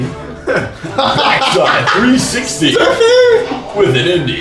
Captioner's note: cracks up